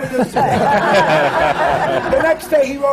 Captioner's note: laughter